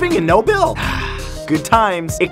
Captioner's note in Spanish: Suspiro